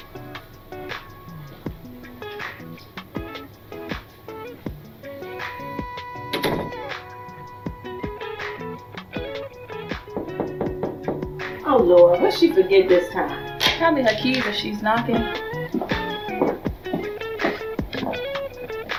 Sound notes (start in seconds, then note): 6.1 door slams; 10.0 knocking